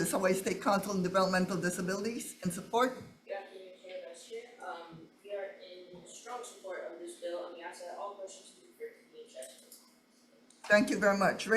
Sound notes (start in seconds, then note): 8.7 faintly speaking